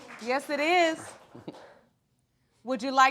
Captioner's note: chuckles